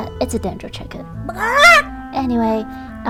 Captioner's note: chicken squawk